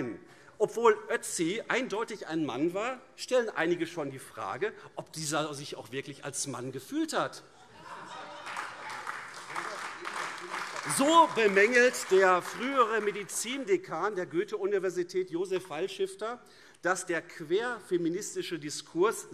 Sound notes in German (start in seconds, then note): 7.7 Heiterkeit und Beifall AfD